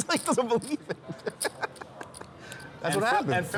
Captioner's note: laughing